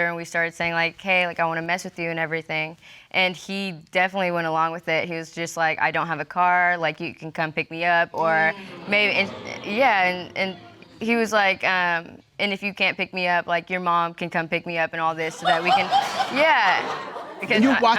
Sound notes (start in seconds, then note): 8.3 audience exclaims; 15.2 laughter